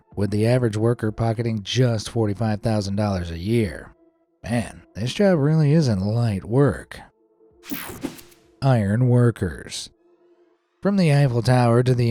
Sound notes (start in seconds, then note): 7.6 screen whooshing